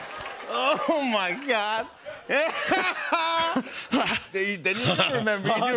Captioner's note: laughter; laughs